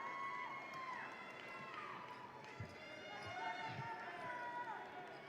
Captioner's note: attendees cheering